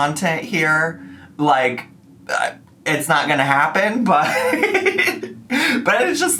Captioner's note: laughs